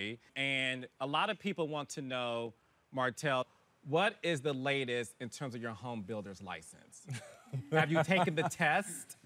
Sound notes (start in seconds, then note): 7.1 laughs